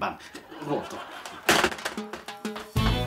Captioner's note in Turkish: Gülme efekti